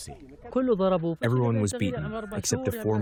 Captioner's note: through translator